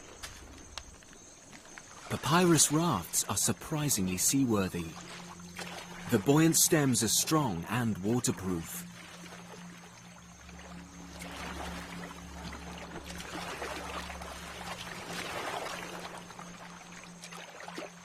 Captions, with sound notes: In Ethiopia, they have been used as ferries between Lake Tana's many islands for generations. (gentle music) (insects buzzing)